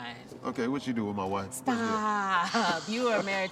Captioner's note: laughs